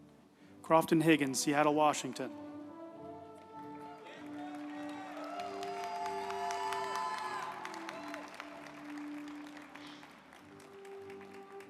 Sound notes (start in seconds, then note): 3.4 group applauding; 3.6 uplifting music